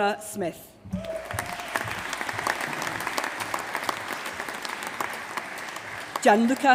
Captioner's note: applause